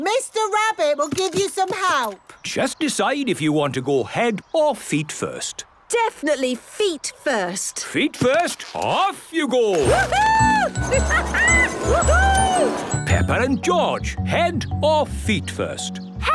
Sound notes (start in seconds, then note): 9.8 laughing